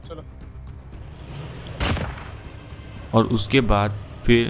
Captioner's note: Engine's sound